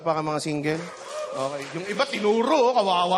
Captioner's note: scattered applause